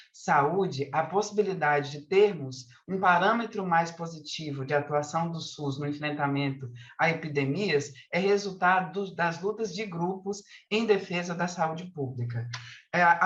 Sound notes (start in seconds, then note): 7.3 continues speaking in Portuguese